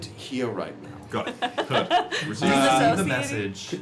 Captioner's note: laughs